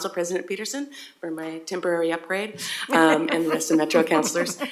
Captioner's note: laugh